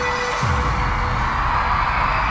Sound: crowd cheering

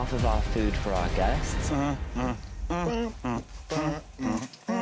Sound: humming

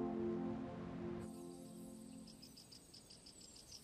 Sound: birds chirping

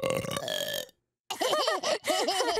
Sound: laughing

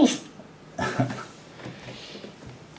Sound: chuckles

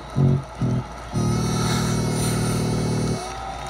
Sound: inhales, exhales

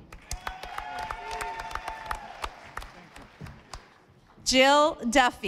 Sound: audience applauding

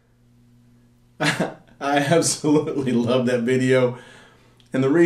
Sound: laughs

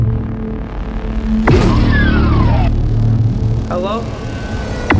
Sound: doors open

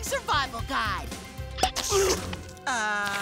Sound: pops

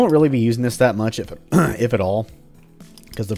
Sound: clears throat

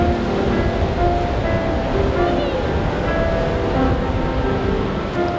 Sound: children playing

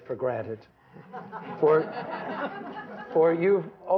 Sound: laughter

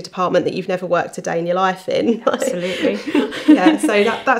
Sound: laughing

